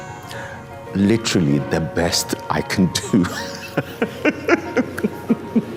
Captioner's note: laughs